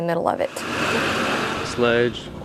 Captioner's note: cars idling